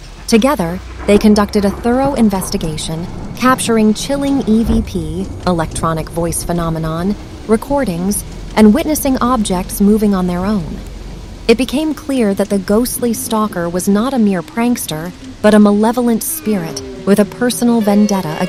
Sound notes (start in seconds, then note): 5.0 electronic Voice Phenomenon